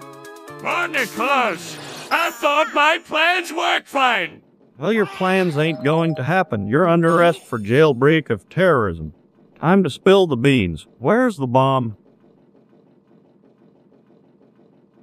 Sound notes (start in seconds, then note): 1.6 Plankton Voice; 5.6 Hank Hill Voice